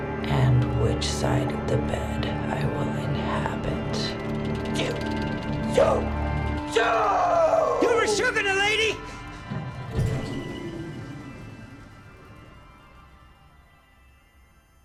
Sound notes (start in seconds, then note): 10.4 vent rumbling stops